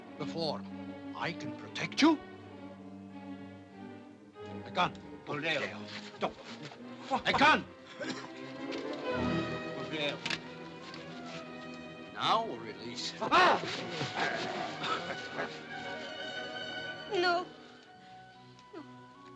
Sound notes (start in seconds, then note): 8.6 dramatic music; 14.1 Mowgli barks & growls; 15.6 dramatic music